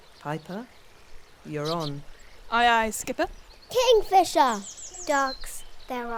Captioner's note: none